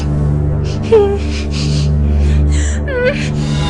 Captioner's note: whimpering